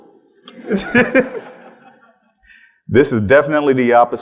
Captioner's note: attendees laughing